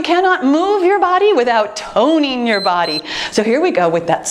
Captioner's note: timer beeps